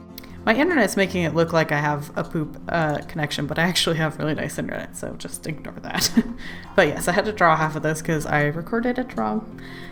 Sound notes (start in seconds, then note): 6.0 laughs